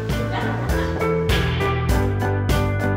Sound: group laughing

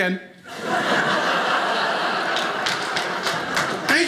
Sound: audience laughing

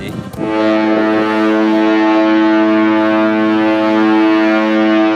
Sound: ship's signal

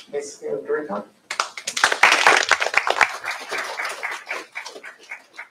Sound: applause

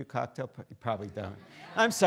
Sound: students laughing

